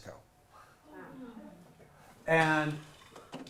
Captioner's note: audience chattering and exclaiming quietly